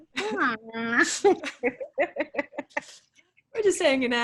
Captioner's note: laughs